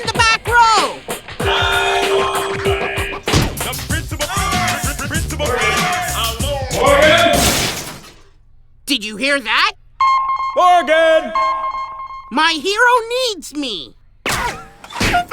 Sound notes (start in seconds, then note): 0.2 digital hip-hop voice plays; 8.4 sonar pings